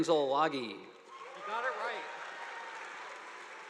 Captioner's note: audience applauding